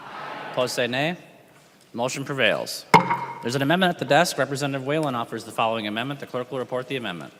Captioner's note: chorus of ayes